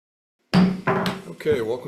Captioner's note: gavel hammering